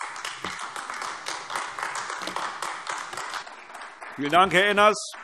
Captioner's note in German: Beifall AfD